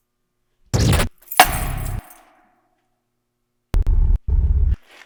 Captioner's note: plastic thuds; static crackles; static whirring